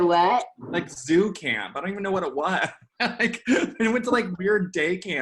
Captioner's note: laughing